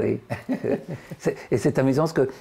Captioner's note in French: Rire